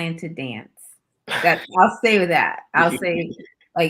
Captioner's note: chuckles